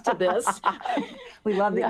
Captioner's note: laughter